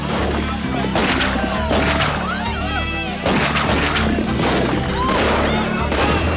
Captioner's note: guns fire rapidly; villagers yelp and yell